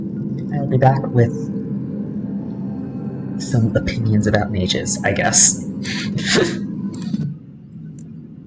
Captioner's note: laughter